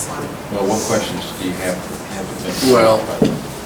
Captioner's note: softly mumbles